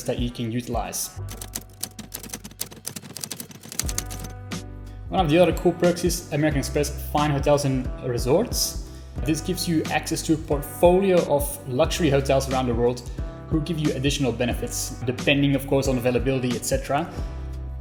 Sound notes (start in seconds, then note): 1.2 keys clacking